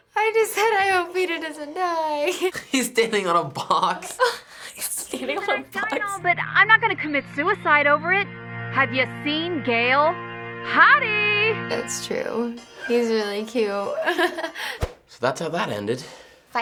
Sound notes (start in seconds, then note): 2.2 laughing; 13.9 giggles